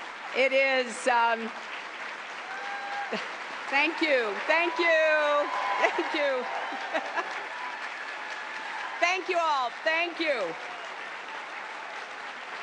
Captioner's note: applause